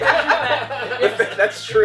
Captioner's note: laughter